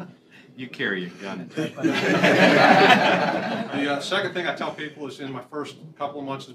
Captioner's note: laughter